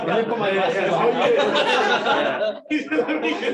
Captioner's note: laughter